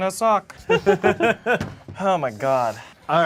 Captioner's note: group laughs